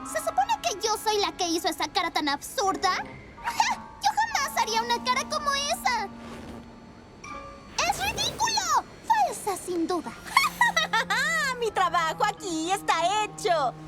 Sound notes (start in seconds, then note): 10.2 nasty laugh